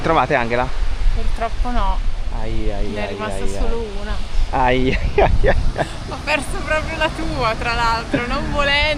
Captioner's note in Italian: risate